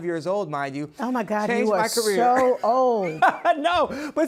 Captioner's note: laughs